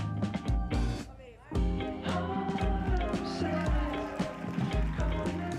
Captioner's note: applause